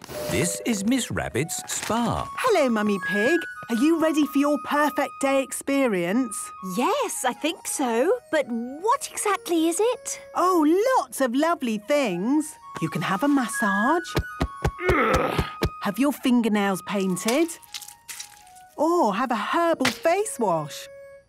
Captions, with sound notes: - This is Miss Rabbit's spa. - Hello, Mummy Pig. Are you ready for your 'Perfect Day' experience? - Yes, I think so... But what exactly is it? - Oh, lots of lovely things! You can have a massage... - (thumping) - (moaning) - Have your fingernails painted... Or have a herbal face wash!